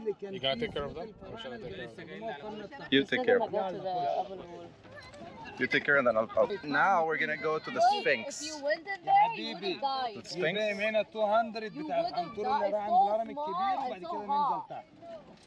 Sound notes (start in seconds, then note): 2.1 people chattering